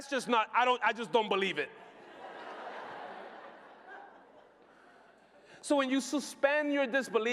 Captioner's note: laughter